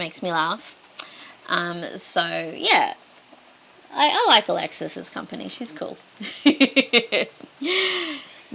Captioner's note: giggles